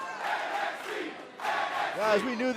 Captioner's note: fans chanting